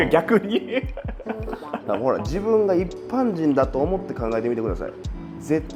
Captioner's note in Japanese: 笑い